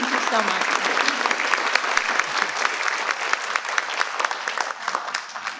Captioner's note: participants clap